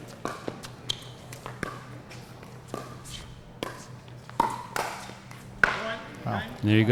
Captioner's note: shoes squeaking; ball being hit